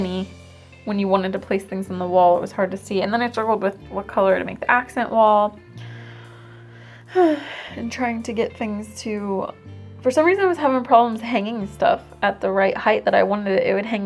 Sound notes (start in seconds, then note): 6.8 sigh